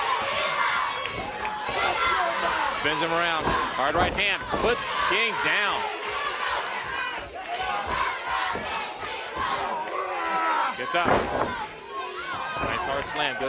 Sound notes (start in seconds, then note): 2.6 crowd cheering; 13.2 crowd cheering